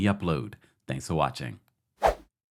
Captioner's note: whooshing effect